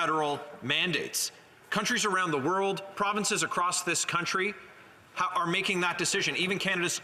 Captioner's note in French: voix de l'interprète